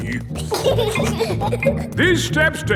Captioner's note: giggling